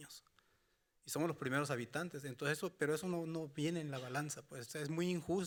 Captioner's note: speaking Spanish continues